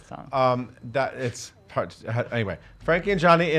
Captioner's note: stammers